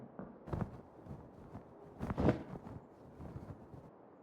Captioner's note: blankets rustling